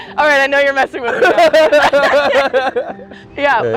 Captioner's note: both laughing